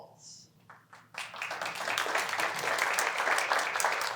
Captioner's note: applause